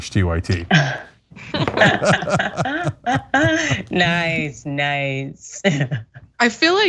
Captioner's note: laugh